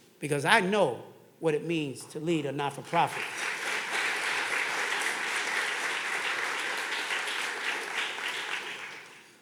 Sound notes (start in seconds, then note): 3.0 audience clapping